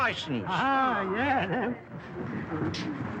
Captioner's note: chuckles